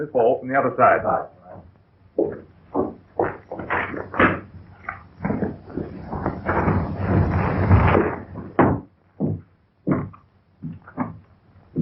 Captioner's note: pounding